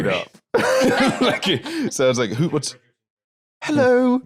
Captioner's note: laughs